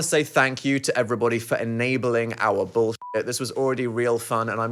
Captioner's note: beep